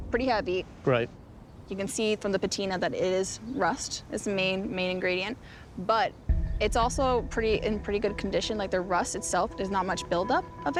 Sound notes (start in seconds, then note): none